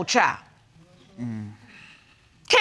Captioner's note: sighs